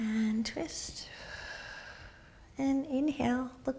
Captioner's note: exhaling